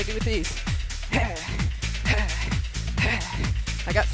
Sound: grunting

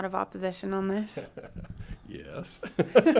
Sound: laughing; both laughing

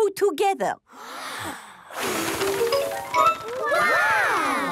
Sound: big breath and blow

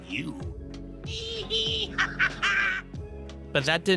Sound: Joker laughs

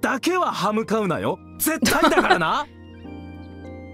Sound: chuckles

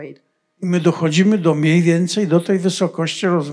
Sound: foreign language

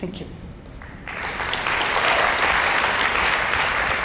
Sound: applauding

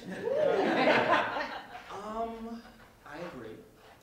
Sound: laughter

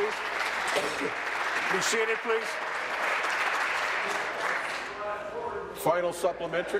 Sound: applause

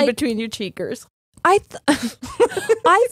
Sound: both laughing

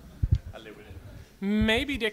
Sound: voiceover

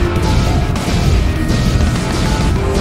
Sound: laser explosion

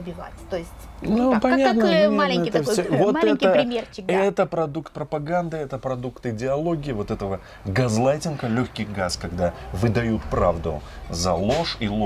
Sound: light gas

